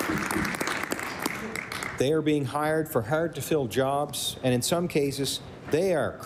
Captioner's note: applause